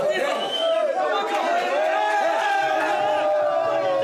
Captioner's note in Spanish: gritan